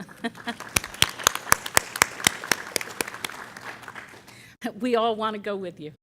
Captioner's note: applause